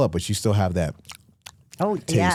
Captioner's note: smacks lips